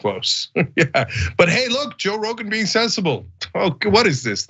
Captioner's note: laugh